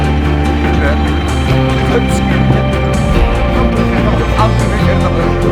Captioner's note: men chatting indistinctly